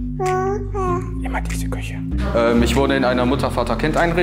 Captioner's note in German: flüstert